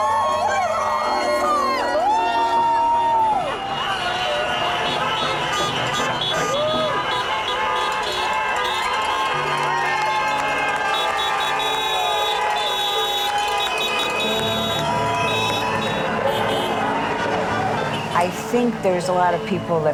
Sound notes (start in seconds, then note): 0.0 group cheering; 0.1 pensive music; 5.6 crowd cheering; 5.6 horns honking